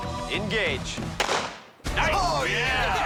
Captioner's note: gunshot